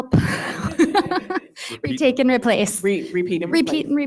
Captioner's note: laughing